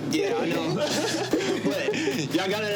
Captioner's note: both laugh